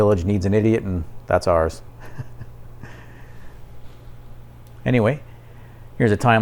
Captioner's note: laugh